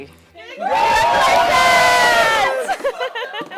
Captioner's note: all cheering; all laughing